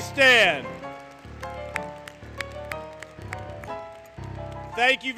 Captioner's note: applause, Music